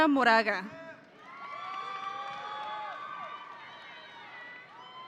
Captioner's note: audience cheering